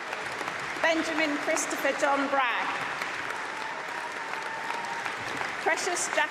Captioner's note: applause